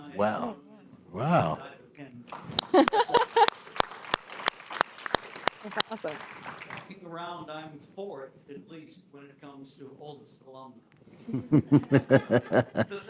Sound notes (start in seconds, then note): 2.2 audience claps; 11.2 group chuckles